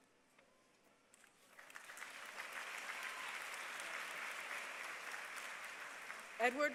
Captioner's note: applause